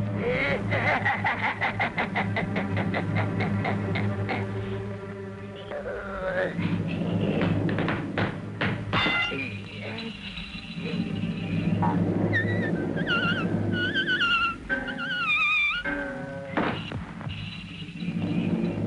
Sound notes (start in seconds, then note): 0.5 sinister laughter; 7.4 tap dancing; 9.0 bell ringing; 12.3 high-pitched buzzing; 16.5 slapping